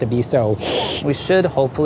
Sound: sucking teeth

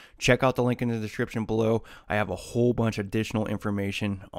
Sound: none

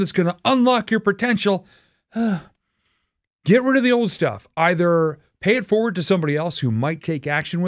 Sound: sigh

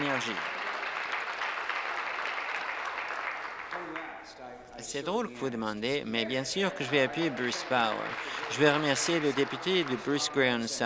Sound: applause

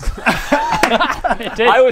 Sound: laughs

